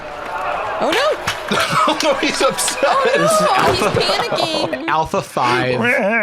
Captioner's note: laughs